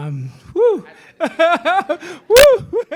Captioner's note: laughs